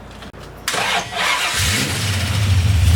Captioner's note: starting car